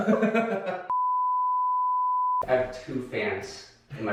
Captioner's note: laughs; test beeping